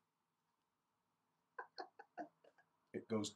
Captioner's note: laugh